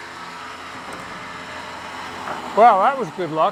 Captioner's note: winch rumbling